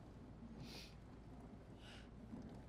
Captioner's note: bucky sniffles